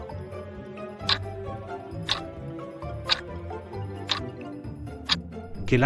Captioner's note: FX - Clock Tick